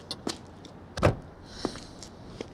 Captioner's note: sighs